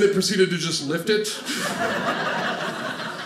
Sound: audience laughing

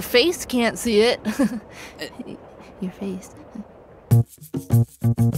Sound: giggles

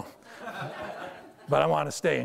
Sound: audience laughter

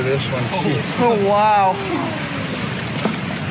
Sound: exclaims from group

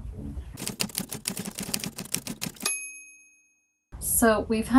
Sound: typewriter keys clacking

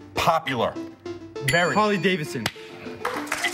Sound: bell dings

